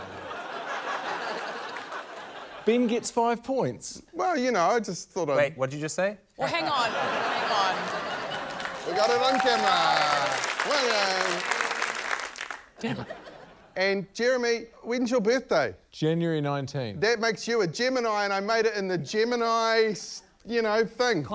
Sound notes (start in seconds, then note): 0.0 laughter; 6.4 laughter; 10.7 applause